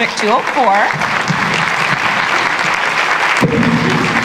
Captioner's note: applause